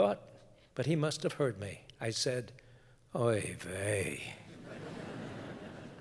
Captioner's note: laughter